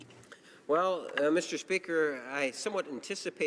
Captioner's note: speaking in french